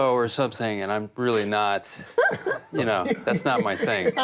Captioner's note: laughs